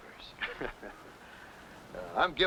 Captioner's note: men laughing